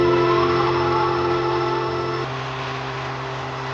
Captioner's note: wind blustering